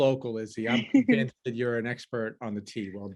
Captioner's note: laughs